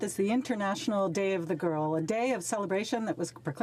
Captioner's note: speaking French